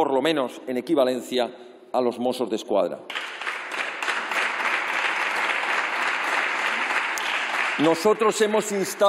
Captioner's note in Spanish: Aplausos